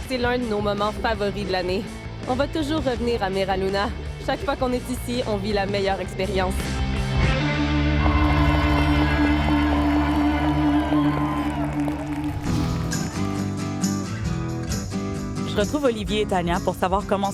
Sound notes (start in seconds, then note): 8.0 cheers; 8.4 applause; 11.0 light music